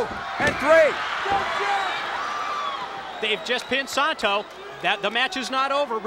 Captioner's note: applause